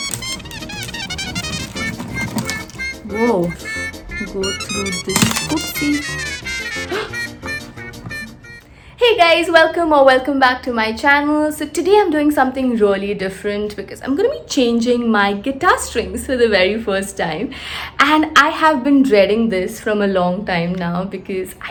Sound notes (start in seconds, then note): 6.8 gasps